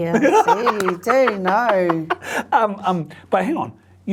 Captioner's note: laughs